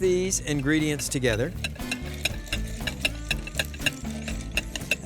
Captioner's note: whisk tapping